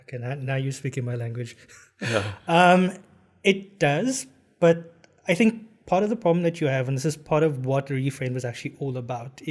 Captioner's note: laugh